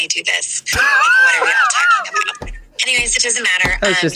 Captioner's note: laughs